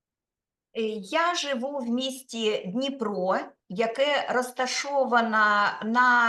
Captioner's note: speaking Ukrainian